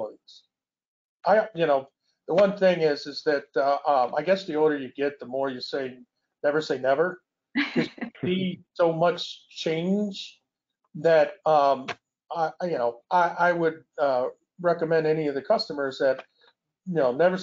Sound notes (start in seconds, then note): 7.7 laughing